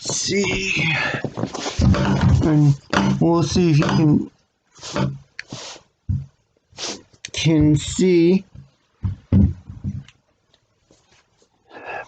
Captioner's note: rattling of door